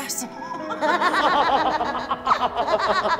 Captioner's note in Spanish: Risa malvada